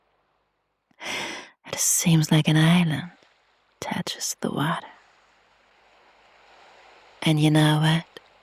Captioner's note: gasps and sighs